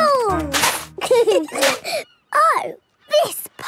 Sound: giggling; laughter

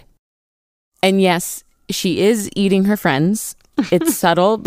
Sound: laughs

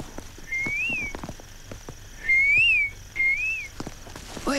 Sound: whistling

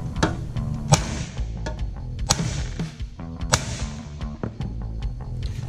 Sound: loud banging

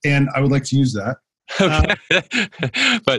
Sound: laughter

